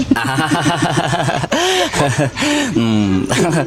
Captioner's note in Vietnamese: tiếng cười